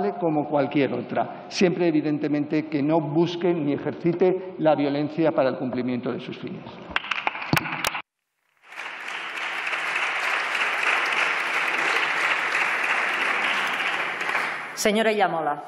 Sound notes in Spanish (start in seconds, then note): 8.6 Aplausos